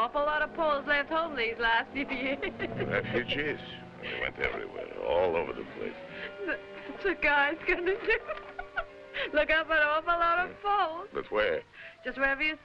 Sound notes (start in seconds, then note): 2.2 Mily laughing; 8.5 laughing